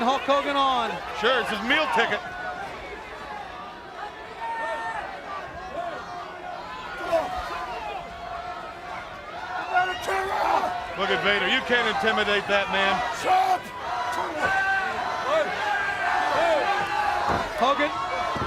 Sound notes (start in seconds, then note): 6.4 crowd chatter; 14.2 crowd chatter